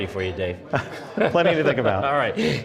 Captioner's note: laughing